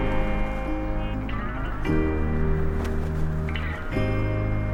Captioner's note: wind whistling